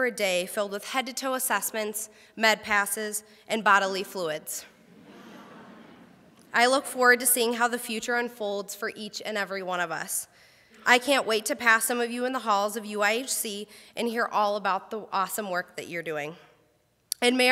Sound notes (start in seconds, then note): 4.8 crowd laughs